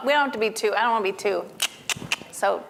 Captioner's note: clicking